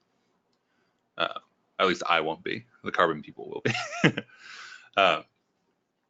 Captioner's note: laughing